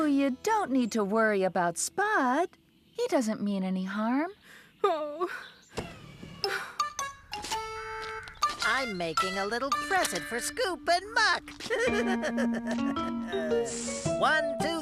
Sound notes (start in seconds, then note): 6.4 sighs; 11.5 laughing